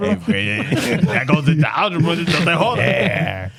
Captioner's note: laughing